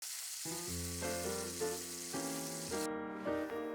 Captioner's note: sizzling sound; soft music